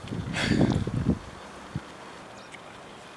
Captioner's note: exhales